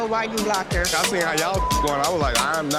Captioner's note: beep